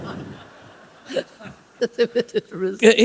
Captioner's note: laughter